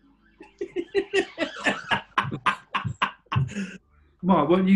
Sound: giggling; laughing

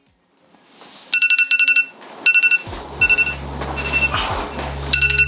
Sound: alarm ringing

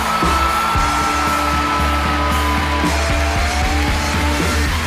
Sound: applause and cheering

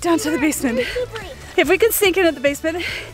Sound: murmurs

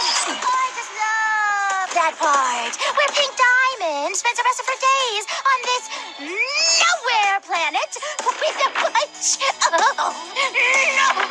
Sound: laughing

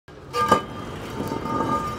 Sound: manhole Cover Scraping

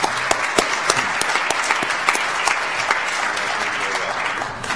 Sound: audience applauds

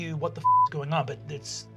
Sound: beeping

